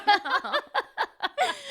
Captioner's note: laughing